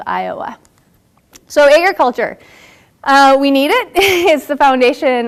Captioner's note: laugh